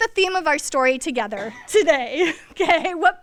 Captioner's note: laughs